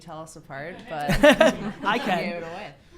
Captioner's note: Gary laughs